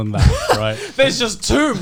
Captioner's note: Joey laughing